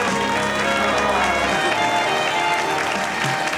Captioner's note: people exclaim